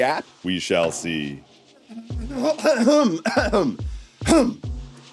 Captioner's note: clearing throat